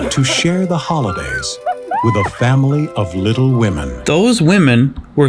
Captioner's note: whoops